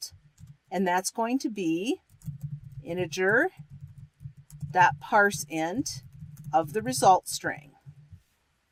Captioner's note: typing